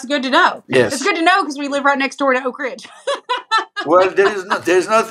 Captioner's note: laugh